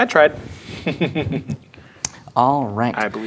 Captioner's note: laughing